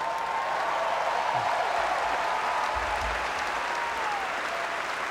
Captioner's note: laughter and applause; cheering